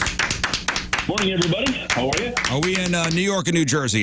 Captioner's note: clapping